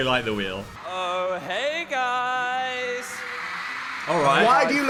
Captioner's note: audience cheering